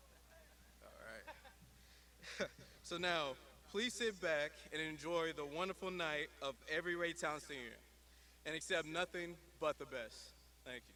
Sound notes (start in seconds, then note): 2.2 graduates laughs; 2.2 presenter laughs